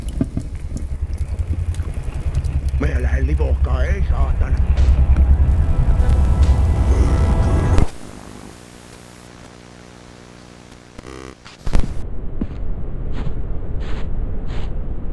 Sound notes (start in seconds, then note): 2.9 character speaks in foreign language; 6.7 disturbing music; 8.1 static hissing; 11.8 footsteps shuffling